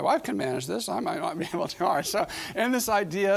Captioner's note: chuckling